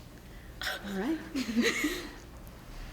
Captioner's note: laughter